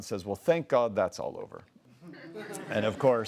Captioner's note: laughs